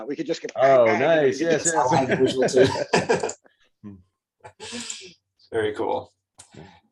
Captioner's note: laughs